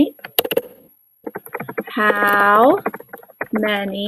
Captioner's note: typing